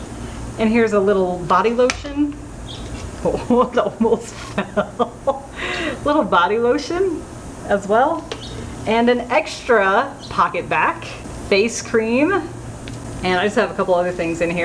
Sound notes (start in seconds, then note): 3.1 laughing